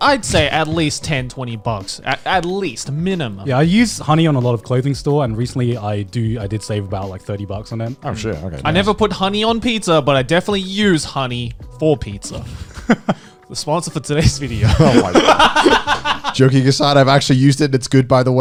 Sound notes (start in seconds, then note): 15.8 laughing